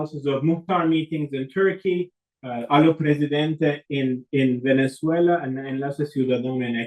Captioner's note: spanish